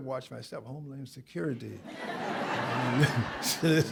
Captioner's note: laughter